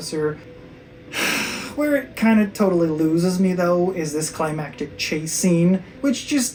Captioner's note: sigh